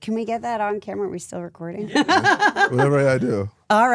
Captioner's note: laughs